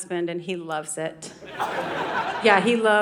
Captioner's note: audience laughing